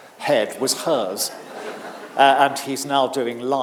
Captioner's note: audience laughing